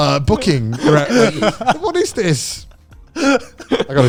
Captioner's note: laughing